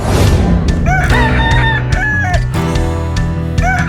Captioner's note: rooster cocking